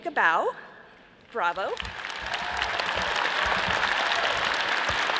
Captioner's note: all applauding